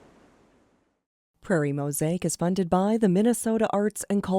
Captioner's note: voiceover